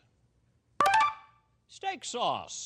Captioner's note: beeping